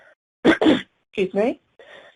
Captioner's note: coughing